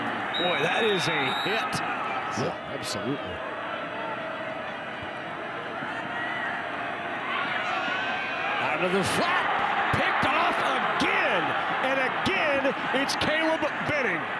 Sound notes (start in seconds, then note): 1.2 referee blows whistle; 9.8 fans cheer